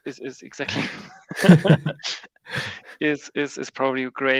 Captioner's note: both laugh